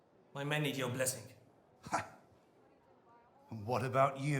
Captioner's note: scoffing